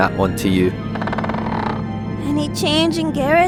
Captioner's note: door opens